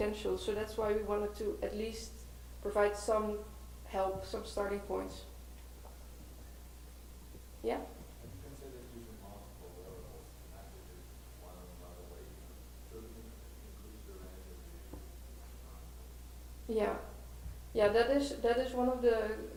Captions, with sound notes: But it has so much potential so that's why we wanted to at least provide some help, some starting points. Yeah? - [Voiceover] Have you considered using multiple wearables, not just one but improves your end? - Yeah, that is one of the considerations.